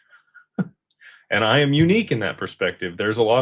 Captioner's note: laughter